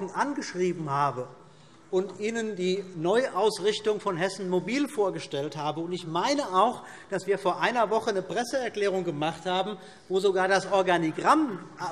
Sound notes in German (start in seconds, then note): none